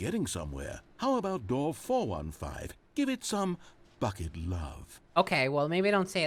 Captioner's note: sultry